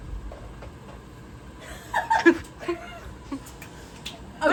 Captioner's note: giggling